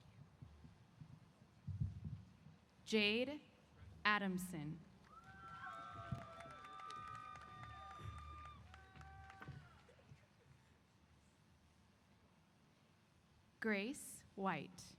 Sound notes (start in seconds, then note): 5.0 applause & Cheers